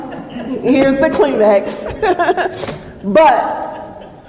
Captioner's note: laughs